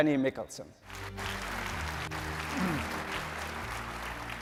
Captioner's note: applause